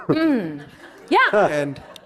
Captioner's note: audience laughs